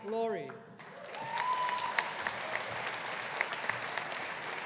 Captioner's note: audience applauding